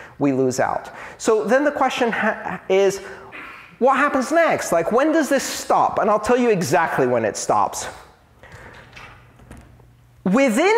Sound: arguing

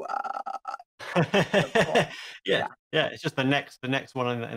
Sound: he laughs

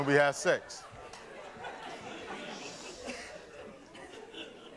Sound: audience laughing

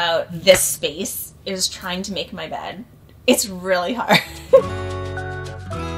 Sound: chuckling; gentle music

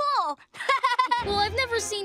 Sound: laughing

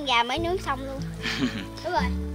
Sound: giggling

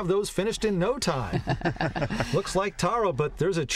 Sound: laughter

